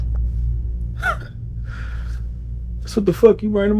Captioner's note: Bird chuckles